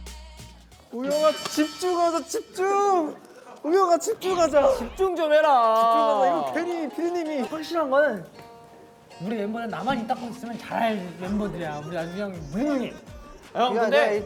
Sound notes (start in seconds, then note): 3.2 everyone's sighing